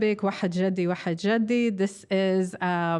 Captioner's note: speaking foreign language